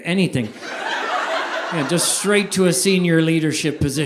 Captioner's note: audience laughing